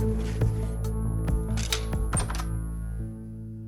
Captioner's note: door opens; crossbow clicks; soft music